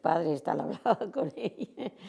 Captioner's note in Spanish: ríe